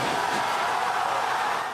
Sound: cheering and applause

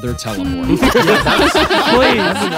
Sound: all laughing

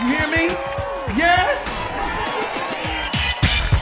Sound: cheering

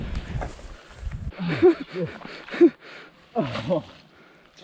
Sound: laughter

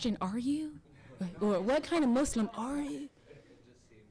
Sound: audience laughing

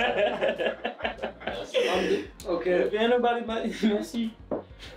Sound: laughing

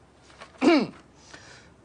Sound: clears throat

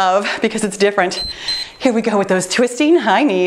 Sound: timer beeps

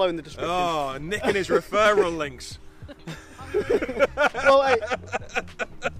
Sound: laughing

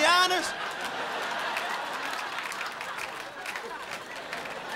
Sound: crowd laughing

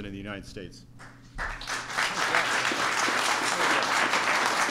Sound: applause

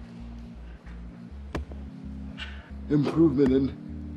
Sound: hammer thudding

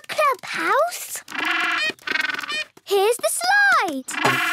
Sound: honking

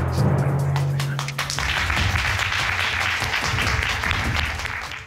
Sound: audience applauding

